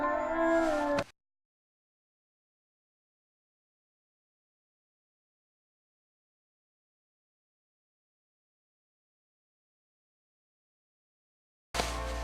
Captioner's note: silence